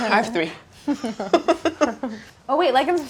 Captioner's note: laughing; both laughing